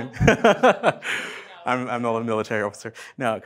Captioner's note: all laughing